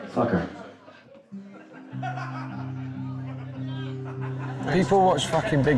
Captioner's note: audience members laughing